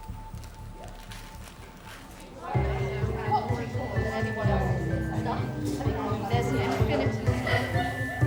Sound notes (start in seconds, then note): 2.5 cheery music; 2.7 people chattering